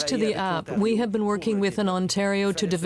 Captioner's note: speaking French